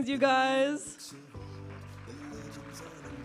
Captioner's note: audience applauding